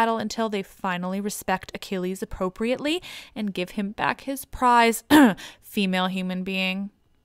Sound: cough

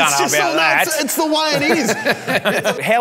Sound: laughing

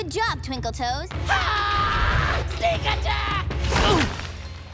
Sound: screaming

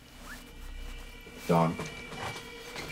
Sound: Gucci bag rustling

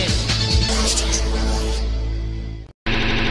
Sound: electronic-filtered voice

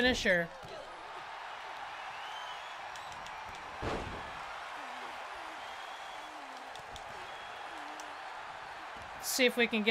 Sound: applause

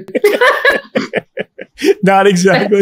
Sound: everyone laughs

